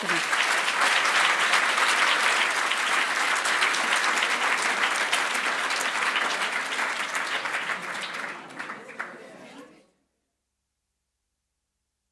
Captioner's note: applause